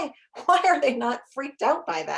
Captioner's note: chuckles